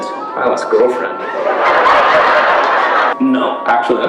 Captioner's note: laughter